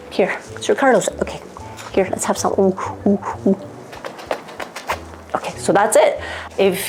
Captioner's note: lips smacking